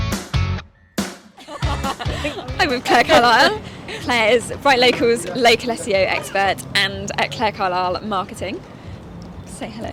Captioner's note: laughs